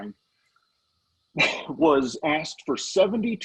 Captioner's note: coughing